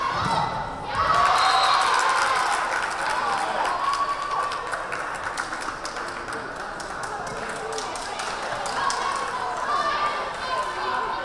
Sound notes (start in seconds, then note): 0.8 crowd cheering; 1.4 whistle blaring